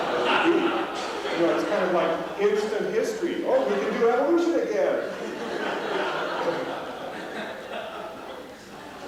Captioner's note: laughter; laughter